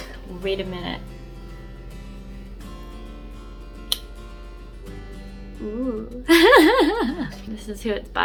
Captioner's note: laughs